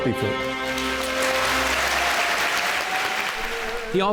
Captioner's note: applause